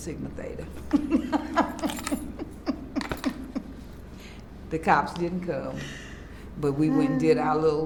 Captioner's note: laughs